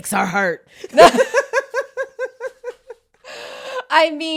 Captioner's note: both laughing